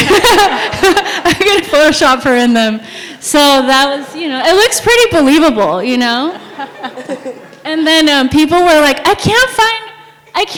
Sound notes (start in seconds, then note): 0.0 sound of audience laughing; 6.2 sound of audience laughing